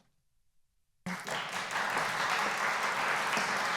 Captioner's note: applause